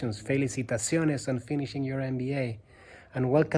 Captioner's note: speaks in foreign language